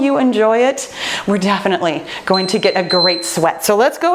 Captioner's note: timer beeps